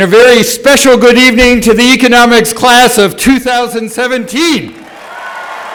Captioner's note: applause